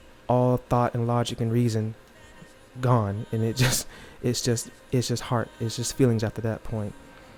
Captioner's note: scoffs